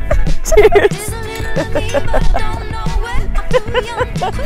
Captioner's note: laughing